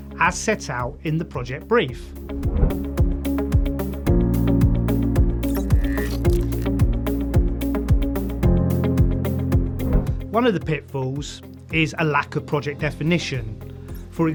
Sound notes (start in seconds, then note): 2.9 dynamic music; 5.6 gears whirring